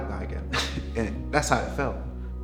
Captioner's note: laughs